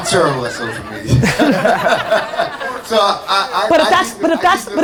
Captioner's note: laughing